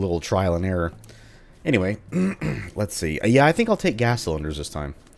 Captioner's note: clears throat